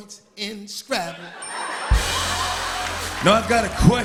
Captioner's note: laughter and applause